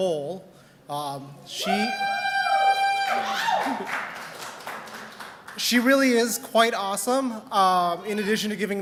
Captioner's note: cheers and applause